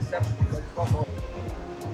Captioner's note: upbeat music; speaking in foreign language